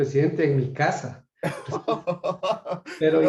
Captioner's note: laugh